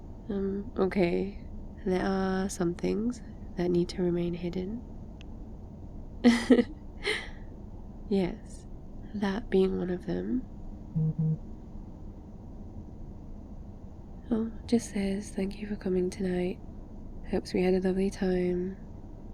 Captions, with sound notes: um ok... there are some things that need to remain hidden *laughs* yes... THAT being one of them *text alert* oh, just says, thank you for coming tonight hopes we had a lovely time